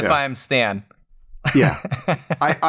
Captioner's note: laughter